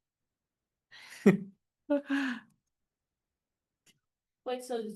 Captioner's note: laughter